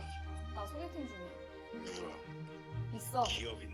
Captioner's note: voice over the phone